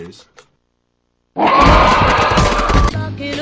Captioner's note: alligator roars and Meatball screams